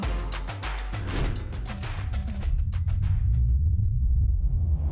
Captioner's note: air whooshing